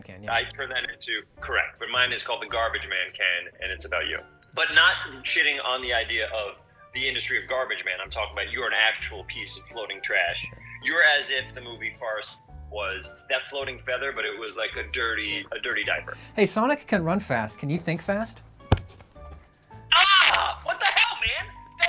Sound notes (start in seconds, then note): 18.6 dull thud